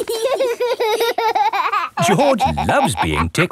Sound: laughing

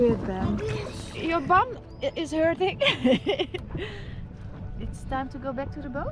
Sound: laughs

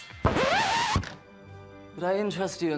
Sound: record scratches

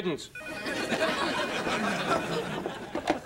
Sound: <i>phone rings

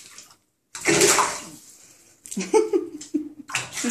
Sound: water splashing

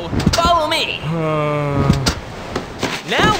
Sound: Tomato sighs

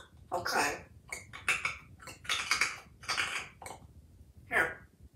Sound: chewing/crunching sounds

